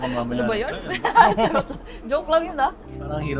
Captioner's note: laughs